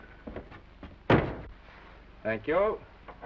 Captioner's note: door slams